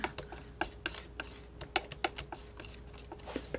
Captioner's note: scratching